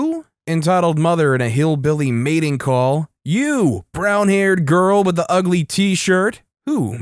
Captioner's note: hillbilly mating call